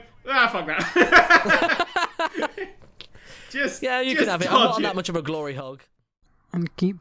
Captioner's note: laughs